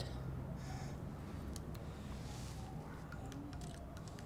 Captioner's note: siren wailing; camera clicking